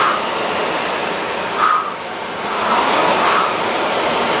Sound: exhaling rhythmically

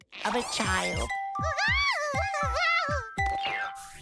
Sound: cooing

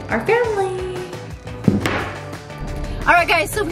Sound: phone hits table

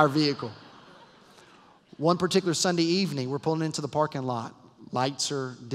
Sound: laughter

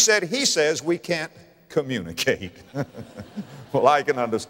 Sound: audience laughter

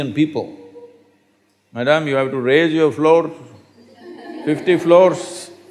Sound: laughter

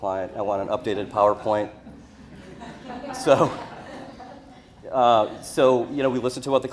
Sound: audience laughter

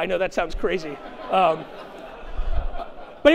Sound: chuckling

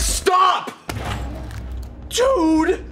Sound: crunching noises

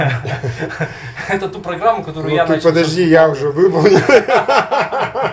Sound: laughter

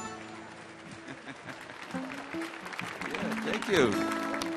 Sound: audience applauding

